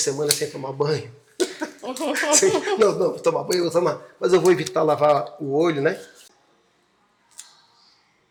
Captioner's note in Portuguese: risadas